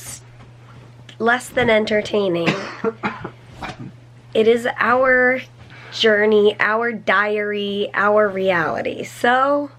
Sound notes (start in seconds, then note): 2.4 coughing